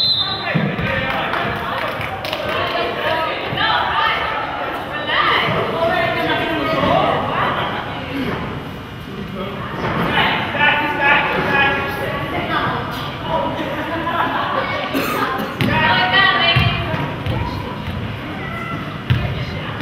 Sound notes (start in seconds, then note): 0.0 whistle blows; 2.6 spectator claps